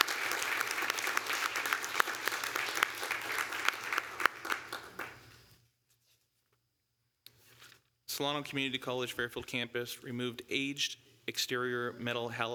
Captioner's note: applause